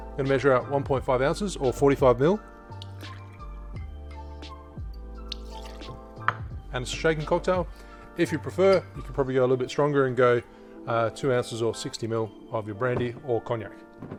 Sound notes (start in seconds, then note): 3.0 liquid trickling; 5.3 liquid sloshing